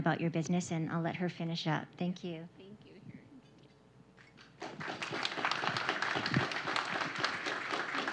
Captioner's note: applause